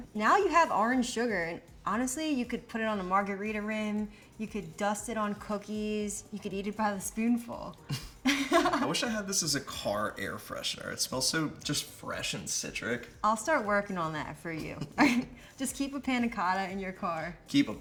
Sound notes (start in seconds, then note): 8.4 laughs; 14.6 laughs